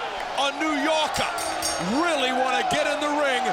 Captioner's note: bell rings